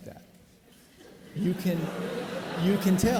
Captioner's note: audience laughing